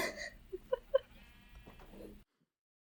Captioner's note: laughter